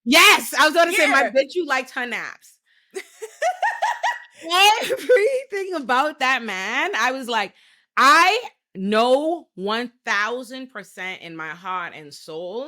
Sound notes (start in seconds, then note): 3.0 laughing